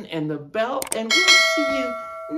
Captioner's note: ding ding